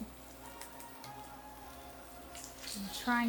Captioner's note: oil sizzling